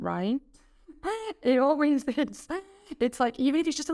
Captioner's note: chuckling